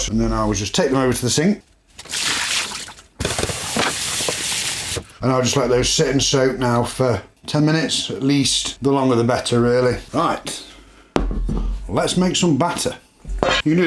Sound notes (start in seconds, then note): 2.0 water sounds